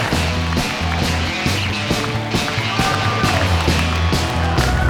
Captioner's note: cheering and applause